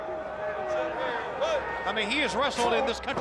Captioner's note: crowd chatter